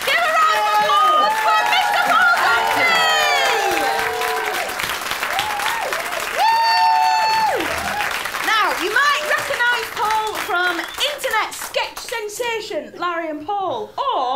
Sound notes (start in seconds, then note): 3.6 applause and wooping